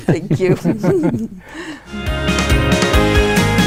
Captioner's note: laughing; uplifting digital music